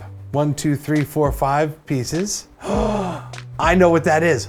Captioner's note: gasp